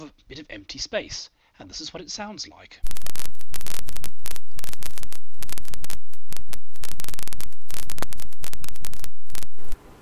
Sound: gentle, fuzzy static noise with occasional soft popping

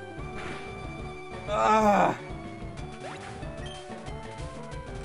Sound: groan

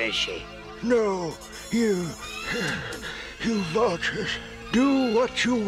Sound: gasping

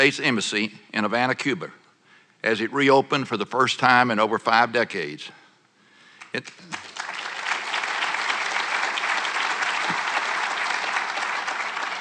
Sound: applause

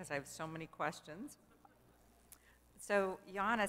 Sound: laugh

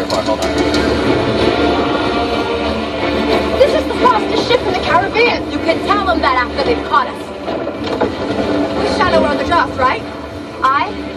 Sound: movie sounds play

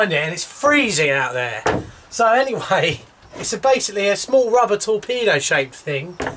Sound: laughs

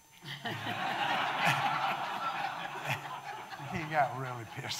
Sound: audience laughing

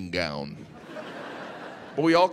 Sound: audience laughing

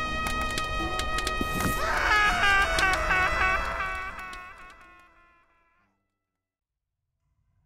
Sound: screams in Sad

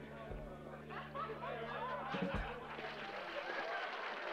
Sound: people chattering in distance; people applauding

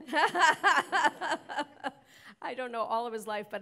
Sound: laughing

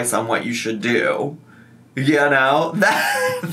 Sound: laughs

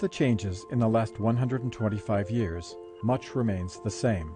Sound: voiceover

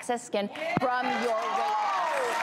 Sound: applause

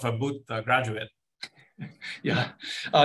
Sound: laughs

